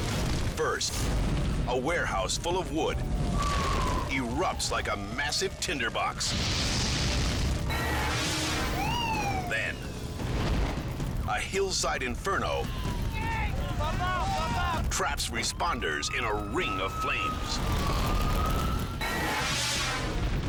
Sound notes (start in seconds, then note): 3.2 sirens screaming; 6.2 explosion booming; 7.7 logo swooshing; 13.0 firefighters yelling; 19.1 logo swooshing